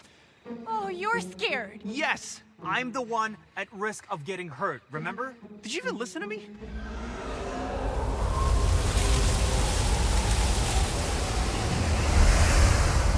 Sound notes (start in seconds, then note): 6.6 screeching growl